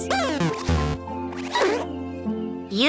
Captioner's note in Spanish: pitidos